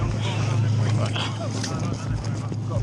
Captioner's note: rescuer chuckles